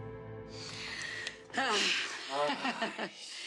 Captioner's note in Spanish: Suspiros; Risas